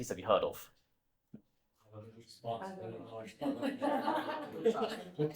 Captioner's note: laughter